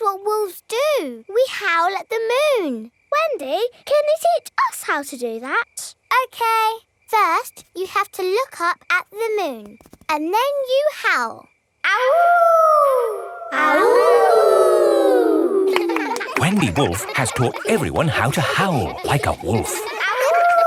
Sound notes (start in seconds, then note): 12.0 howling; 14.0 kids howling